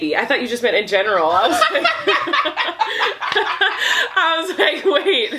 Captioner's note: laughing